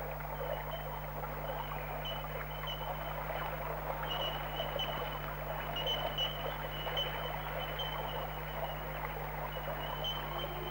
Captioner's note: sound of trickling water